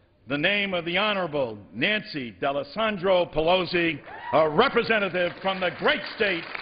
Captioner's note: applause